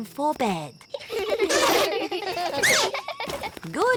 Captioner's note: all giggling